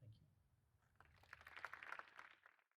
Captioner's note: applause